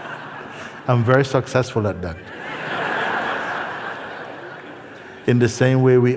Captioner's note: laughter; laughter